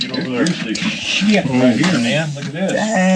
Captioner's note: men chattering